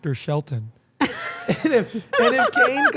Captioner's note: laugh